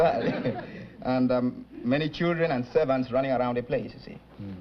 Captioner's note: chuckles